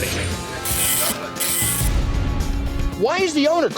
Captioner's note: ticket printing